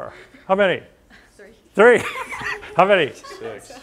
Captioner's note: laughter